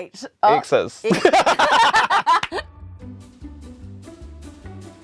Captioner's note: both laugh; playful music continues